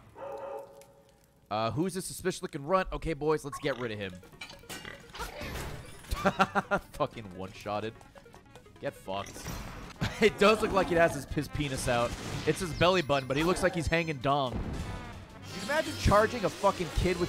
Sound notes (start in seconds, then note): 6.0 laughs